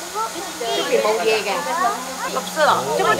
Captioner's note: Cantonese